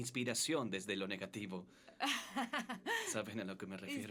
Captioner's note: laughs